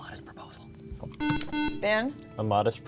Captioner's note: beeping